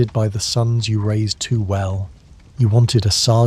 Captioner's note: ambient Campfire Crackling